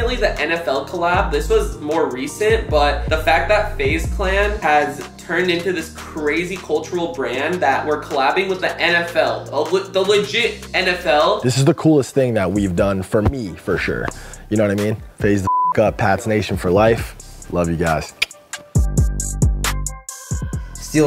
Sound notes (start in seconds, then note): 15.4 beep; 18.1 clicks tongue; 19.1 upbeat music